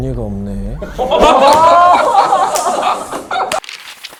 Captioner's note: the audiences are dying laughing